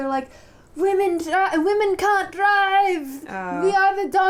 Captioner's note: scottish accent